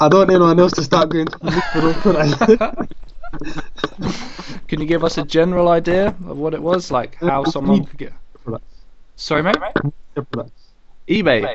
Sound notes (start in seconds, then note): 0.8 laughs; 3.2 clicking